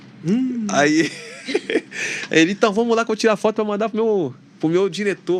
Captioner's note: risadas